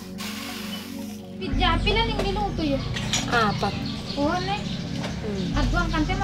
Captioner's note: converses in Mag-indi